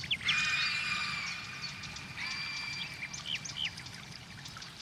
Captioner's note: creature shrieking